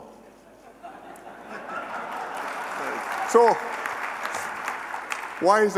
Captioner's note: laughter and applause